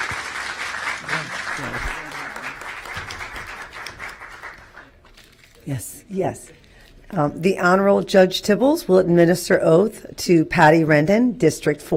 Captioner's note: applause